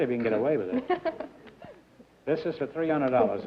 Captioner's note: laughter